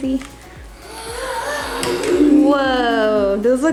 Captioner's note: children gasping